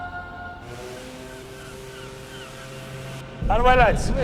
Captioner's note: ship horn blowing